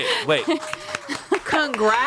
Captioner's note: everyone applauds